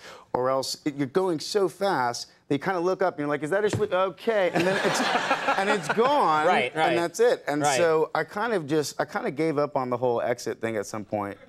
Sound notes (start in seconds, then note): 4.5 Conan laughs